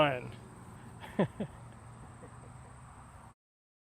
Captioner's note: chuckles